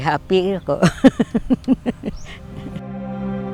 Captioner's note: happily laughs